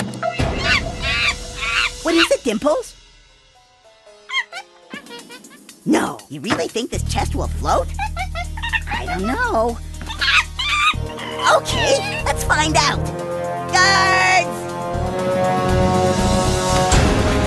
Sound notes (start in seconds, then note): 0.2 monkey noises; 4.2 monkey noises; 7.5 monkey noises